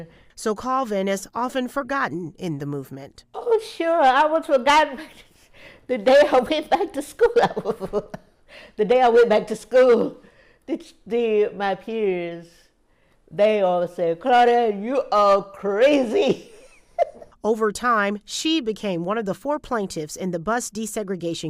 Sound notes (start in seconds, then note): 10.9 laughter